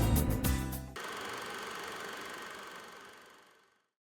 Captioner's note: film reel rolling